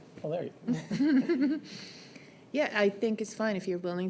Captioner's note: chuckles